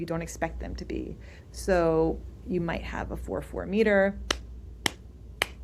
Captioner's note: claps